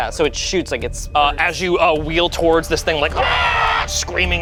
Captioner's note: screeches